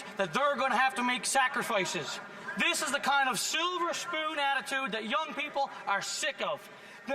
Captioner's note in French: voix de l'interprète